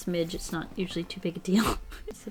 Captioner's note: laughs